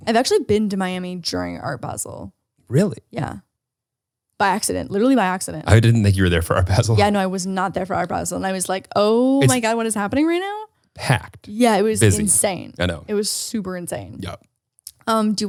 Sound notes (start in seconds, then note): 5.7 laughs